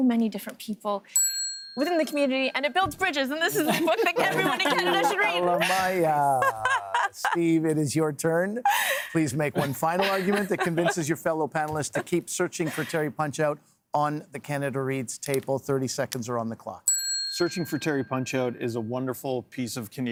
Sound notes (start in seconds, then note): 11.2 laughter